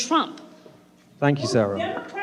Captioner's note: shouting